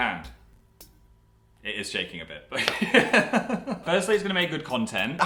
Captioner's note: laughs